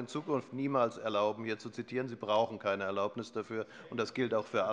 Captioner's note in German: none